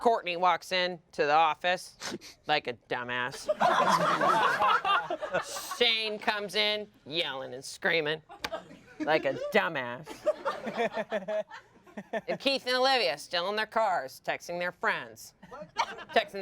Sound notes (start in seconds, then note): 3.5 everyone laughs; 10.1 everyone laughs